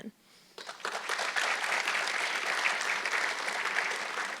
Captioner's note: audience clapping